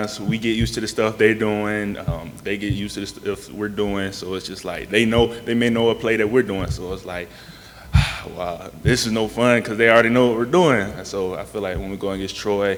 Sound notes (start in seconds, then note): 7.4 sigh